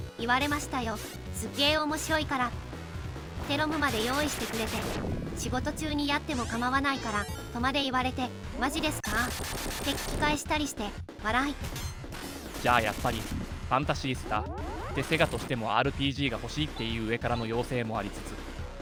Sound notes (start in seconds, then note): 11.5 laughs